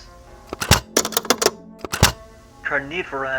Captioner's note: cassette swap noises